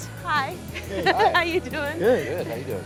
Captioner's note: chuckles